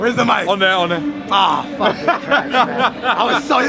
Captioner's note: laughing